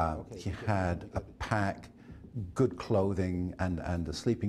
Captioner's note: voiceover